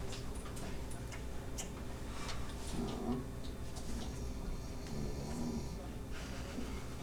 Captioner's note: snoring